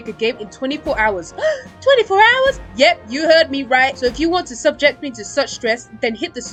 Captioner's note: gasps